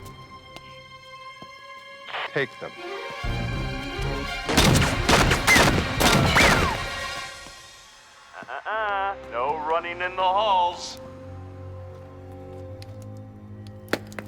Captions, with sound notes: - Take them. (dramatic music) (guns firing) (dramatic music) Uh uh uh, no running in the halls. (dramatic music)